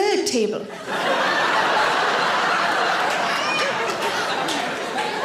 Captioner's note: audience laughing